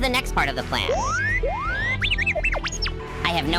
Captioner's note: astromech rambling beeps